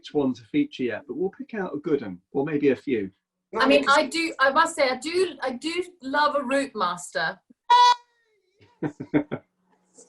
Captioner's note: cheers; laughs